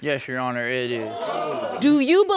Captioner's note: audience exclaims